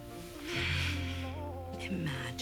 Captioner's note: sighs